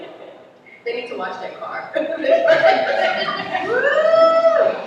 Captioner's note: laughter